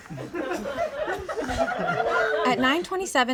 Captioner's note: people laugh